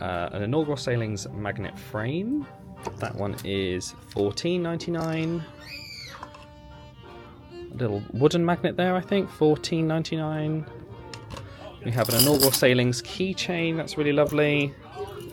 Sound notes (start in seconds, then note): none